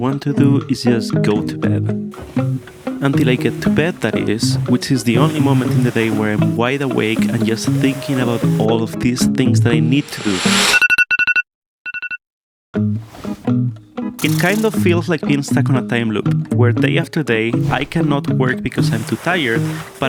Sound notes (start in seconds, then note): 11.9 iPhone alarm